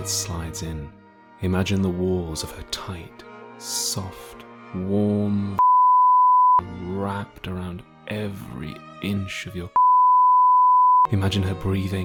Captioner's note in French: bip